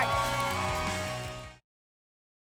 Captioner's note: applause and cheering